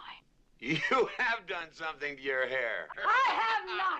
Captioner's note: chuckling